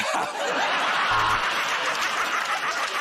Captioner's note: buzzer buzzes; laughter